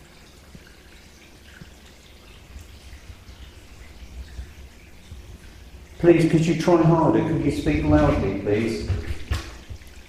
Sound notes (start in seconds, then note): 1.8 water dripping; 9.8 water dripping